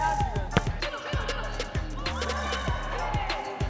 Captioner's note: upbeat music; chattering; upbeat music